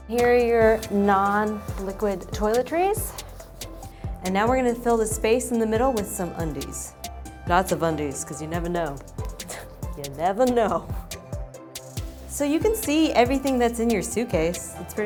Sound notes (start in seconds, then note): 9.0 scoffs